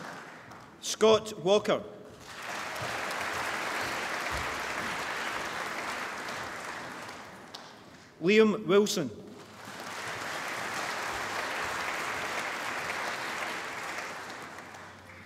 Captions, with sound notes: Scott Walker (APPLAUSE) Liam Wilson (APPLAUSE)